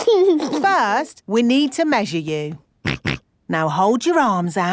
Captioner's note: snorts